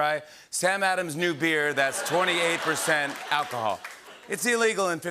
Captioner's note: laughter and applause